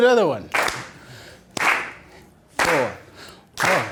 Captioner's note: clapping